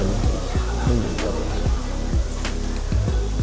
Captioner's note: reciting a prayer